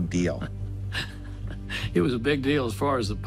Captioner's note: laughs